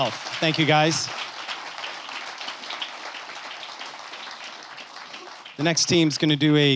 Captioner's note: applause